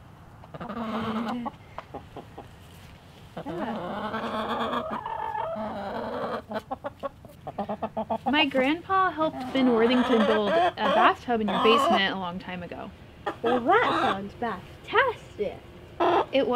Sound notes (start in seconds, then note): 3.3 clucking